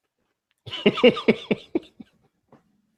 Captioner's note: laughs